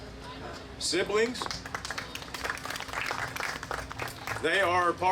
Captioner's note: audience applauding